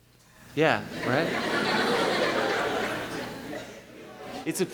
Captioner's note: laughing